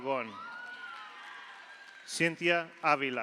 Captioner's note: audience cheers; audience applauds